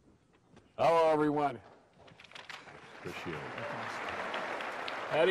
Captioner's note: applause